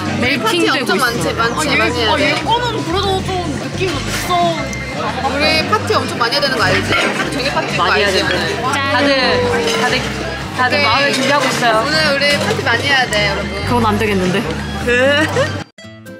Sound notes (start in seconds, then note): 8.7 birthday cheers